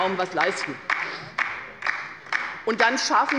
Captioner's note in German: Beifall bei der LINKEN